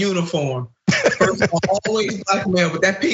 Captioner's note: laugh